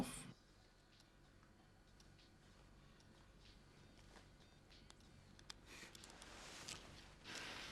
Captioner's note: fingers tapping; upbeat music